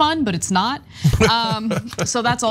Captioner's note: laugh